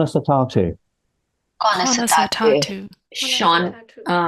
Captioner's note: Speaking Irish